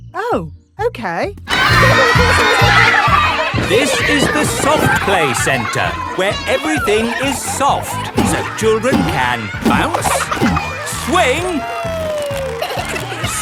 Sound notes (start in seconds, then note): 4.2 loudly over shouting